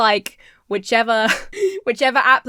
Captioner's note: Emma laughs